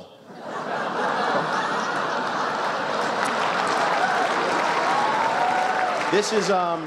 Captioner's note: laughter, extra applause